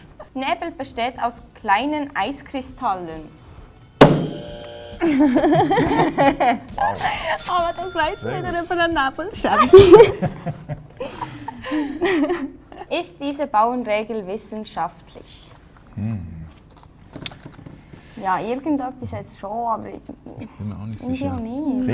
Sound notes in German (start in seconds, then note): 4.0 buzzer; 7.4 katsching